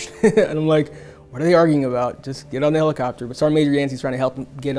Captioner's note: laughs